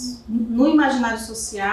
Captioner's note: speaking portuguese